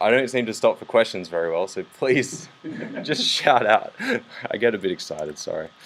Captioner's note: laughs